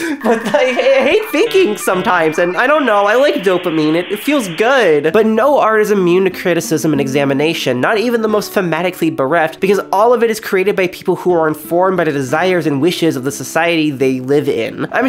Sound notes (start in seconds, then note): 0.0 barely contained laughter; 0.2 dial-up noises in brain